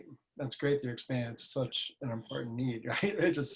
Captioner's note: laughs